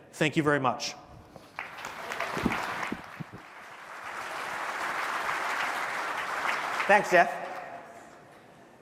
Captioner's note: applause